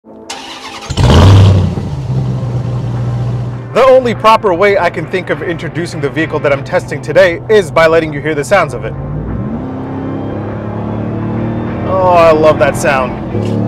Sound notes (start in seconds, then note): 0.2 car engine roaring; 9.1 vehicle engine roaring; 13.4 vehicle engine roaring